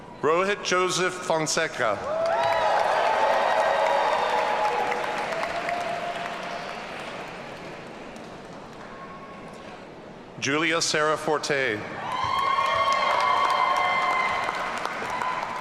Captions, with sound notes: Rohit Joseph Fonseca. (audience cheering) Julia Sarah Forte. (audience cheering)